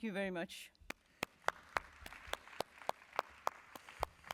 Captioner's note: applause